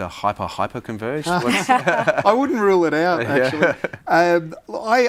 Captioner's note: all laugh